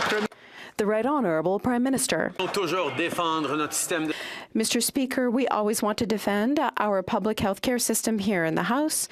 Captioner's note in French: applaudissements